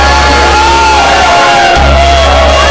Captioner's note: all cheering